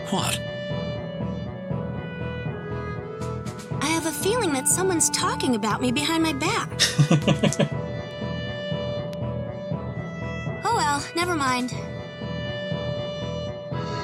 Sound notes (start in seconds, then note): 6.8 laughs